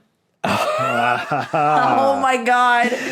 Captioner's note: chuckles; laughs; wheezes